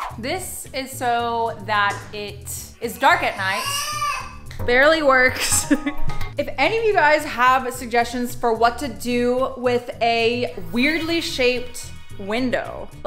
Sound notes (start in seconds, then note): 3.2 baby whines; 5.5 silly music